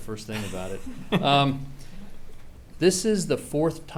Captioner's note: laughing